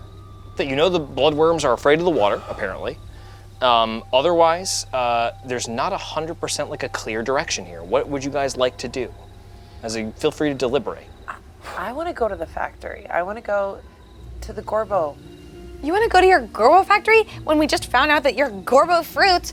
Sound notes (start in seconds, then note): none